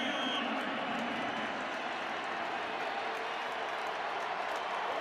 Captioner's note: whistles